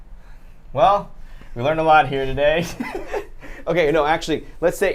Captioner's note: laughs